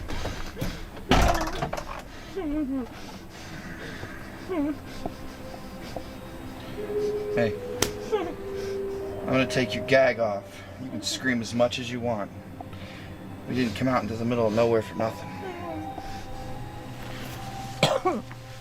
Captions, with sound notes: Hey. (Slap) I'm gonna take your gag off You can scream as much as you want We didn't come out into the middle of nowhere for nothing (Cough)